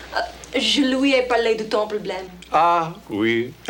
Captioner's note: Jilly speaks French